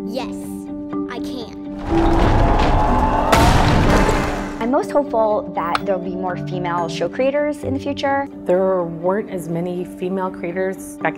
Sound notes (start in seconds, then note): 1.7 earth rumbles; 3.4 loud explosion